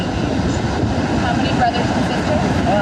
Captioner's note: waves crashing